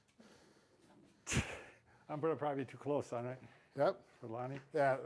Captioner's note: exhales